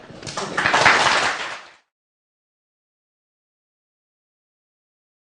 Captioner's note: applause